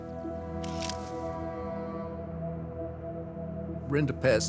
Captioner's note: camera snapping